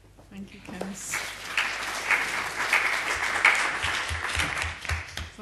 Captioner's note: applause